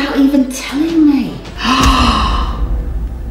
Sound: gasps

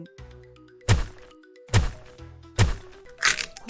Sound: hitting sound; breaking sound

